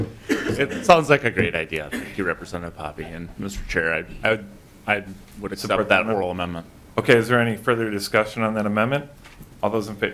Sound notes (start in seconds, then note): 3.0 laughter